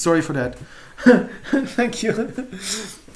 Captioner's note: chuckling